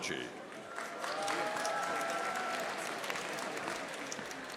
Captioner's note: audience applauding